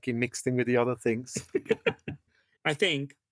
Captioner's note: laugh